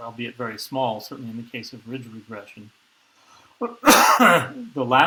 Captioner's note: sneeze